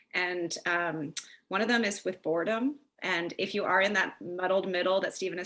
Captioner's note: lips smack